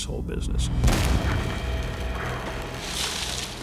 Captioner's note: booming